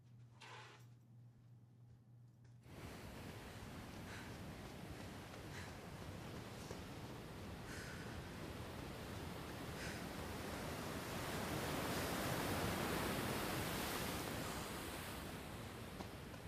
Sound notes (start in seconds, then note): 2.7 waves splashing